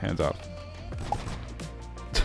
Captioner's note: gunshots